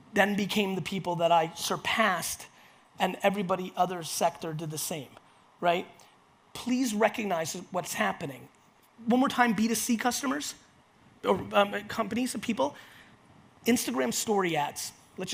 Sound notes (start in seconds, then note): none